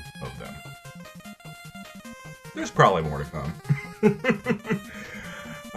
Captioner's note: laugh